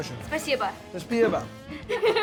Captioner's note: speaking russian; repeats in russian; laughing